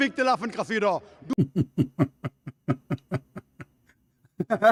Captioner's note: Ketawa